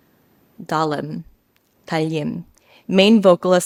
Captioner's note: participant speaks a foreign language